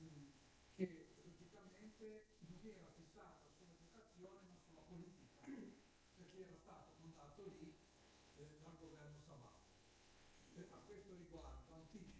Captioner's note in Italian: schiarire la voce